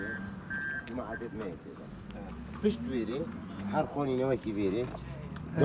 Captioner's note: speaking foreign language